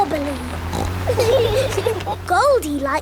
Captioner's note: laughing